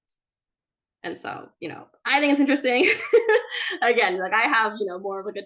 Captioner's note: chuckles